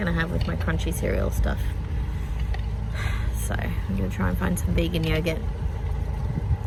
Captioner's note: sighs